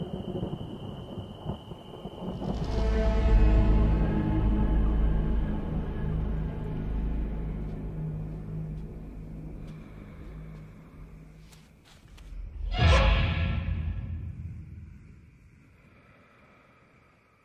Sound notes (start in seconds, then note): 2.9 suspenseful music; 9.9 footsteps pattering